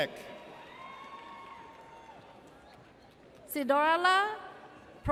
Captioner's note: audience cheers